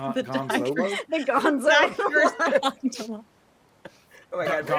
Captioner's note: people laughing